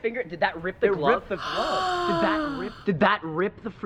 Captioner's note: gasps deeply